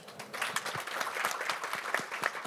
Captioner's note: applause